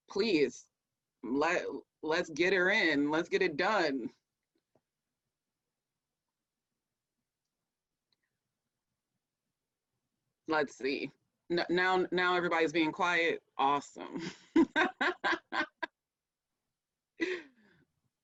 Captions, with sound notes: please let's get it in, let's get it done. Let's see, now everybody's being quiet, awesome. (laughs)